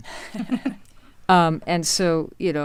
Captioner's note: laughing